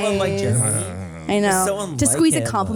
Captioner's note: grumbles